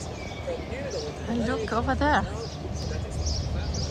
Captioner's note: birds